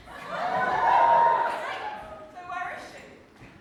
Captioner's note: audience cheers